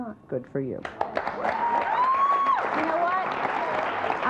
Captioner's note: audience applauds